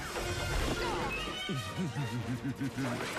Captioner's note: groans